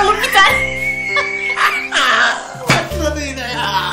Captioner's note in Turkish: Kahkaha atarlar